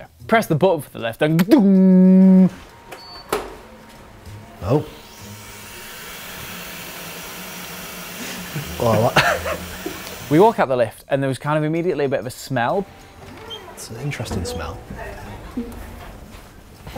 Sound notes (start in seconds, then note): 5.1 hissing; 8.3 laughter